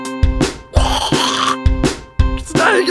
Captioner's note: goblin screech